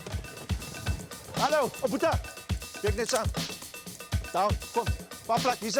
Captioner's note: xhosa spoken audio